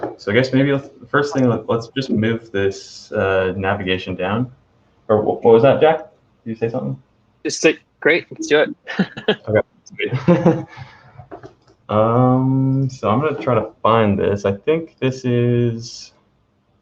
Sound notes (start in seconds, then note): 8.2 laughing